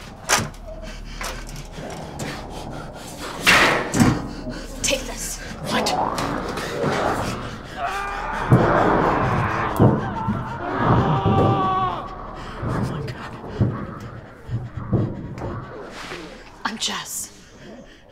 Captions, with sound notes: [Grate yanking, metal clanking] Take this. What? [Creature attacking sounds, screams] Oh my god. I'm Jess.